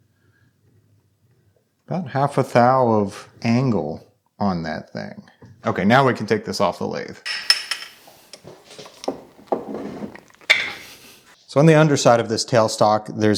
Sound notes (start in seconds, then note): 7.2 parts clinking